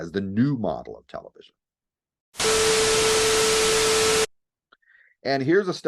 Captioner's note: Static